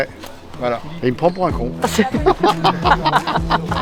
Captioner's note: laugh